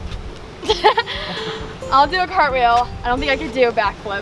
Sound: laughs

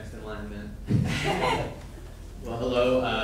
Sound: laughing

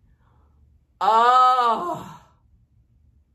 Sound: groans

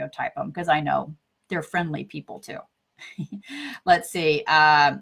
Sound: chuckles

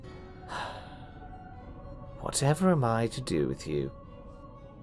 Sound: sighs

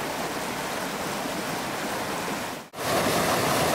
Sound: flowing creek water

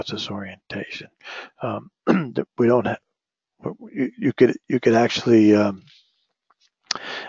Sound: cough

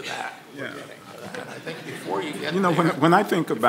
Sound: audience laughing

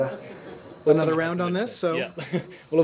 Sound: laughter

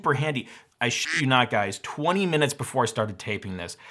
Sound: quack

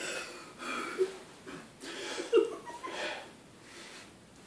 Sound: giggles; sighs; whew

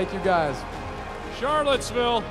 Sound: cheering

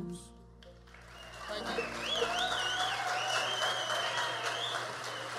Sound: audience cheers and applauds

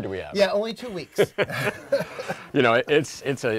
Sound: laughter

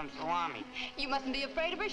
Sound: chuckles

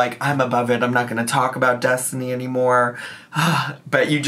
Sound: sighs

